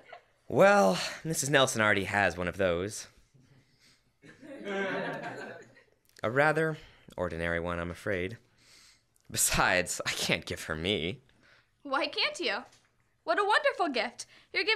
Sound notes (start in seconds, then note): 4.2 laughter